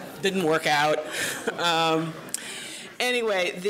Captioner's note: laughter